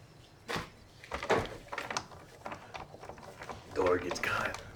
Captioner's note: doorknob rattles